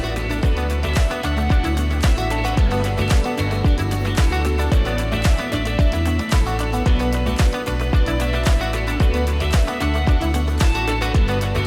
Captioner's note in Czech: Potlesk